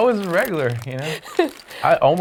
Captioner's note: laughing